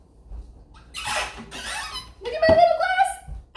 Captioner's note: closet squeaking